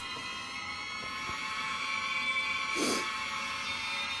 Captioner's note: lips smacking; sniffing